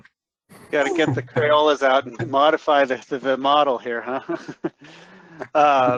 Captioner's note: chuckles